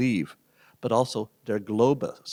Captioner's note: speaking german